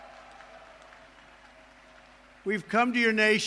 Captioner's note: applause